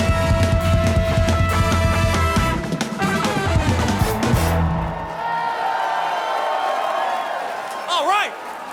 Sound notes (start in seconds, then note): 5.3 audience cheers